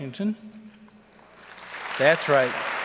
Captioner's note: audience applauds